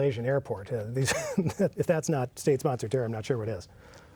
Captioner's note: laughs